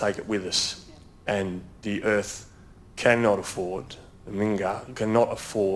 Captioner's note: speaks in foreign language